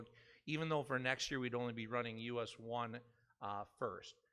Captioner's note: none